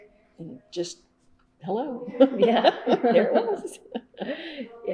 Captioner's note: laughs